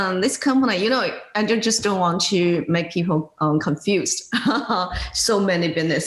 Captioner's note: laughing